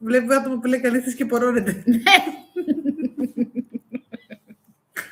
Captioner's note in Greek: γέλια